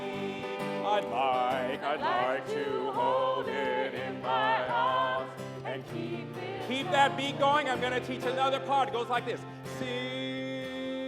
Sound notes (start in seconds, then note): none